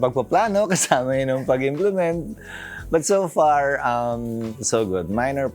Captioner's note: laughs